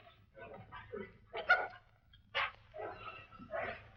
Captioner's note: dog barks; dog growling